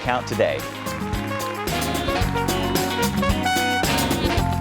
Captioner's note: crowd applauding